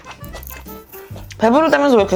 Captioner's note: crunch crunch